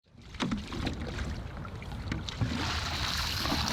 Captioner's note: water splashes